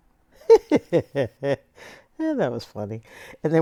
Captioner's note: laughter